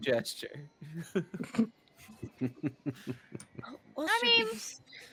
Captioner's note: Cornette laughs; game Master laughs